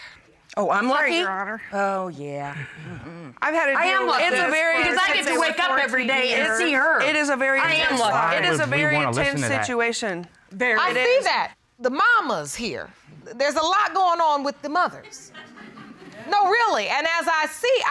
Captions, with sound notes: -Sorry, Your Honor. -Oh, I'm lucky? Oh, yeah. I am lucky 'cause I get to wake up every day and see her. -I am lucky. -It is a very tense situation. I see that. The mamas here... -There's a lot going on with the mothers. -[laughter] No, really. And as I see, I mean,